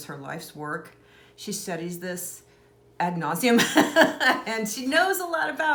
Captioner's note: laughs